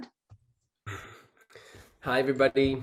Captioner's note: chuckles